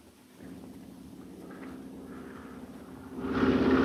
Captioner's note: Phantom buzzing